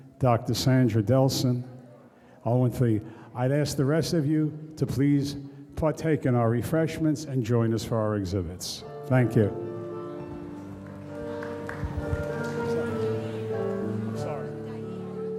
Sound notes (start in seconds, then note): 10.2 audience applauds; 12.2 soft piano music